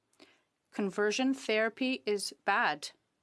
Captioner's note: speaking French